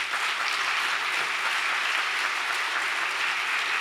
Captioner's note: audience applauds